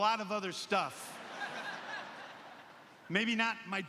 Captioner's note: laughter